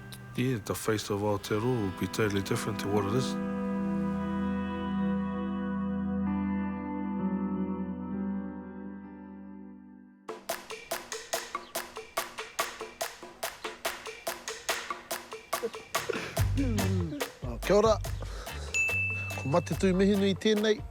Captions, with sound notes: yeah, the face of Aotearoa will be totally different to what it is. (PERCUSSIVE MUSIC) (BOTH LAUGH) Oh, kia ora. Ko Matetu Mihinui tenei.